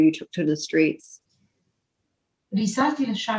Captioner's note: speaks arabic